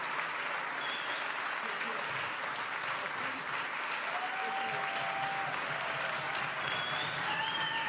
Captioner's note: applause